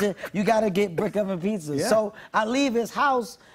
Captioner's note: normal voice